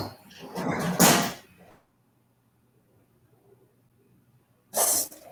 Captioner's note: metal banging